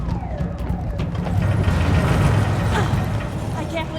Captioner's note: building creaking